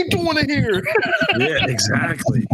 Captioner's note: laughing